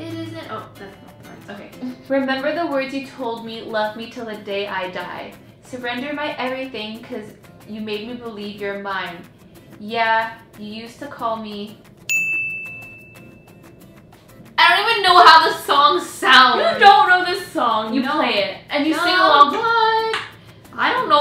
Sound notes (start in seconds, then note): 12.1 bell dings